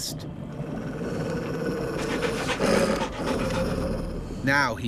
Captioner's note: wolf growls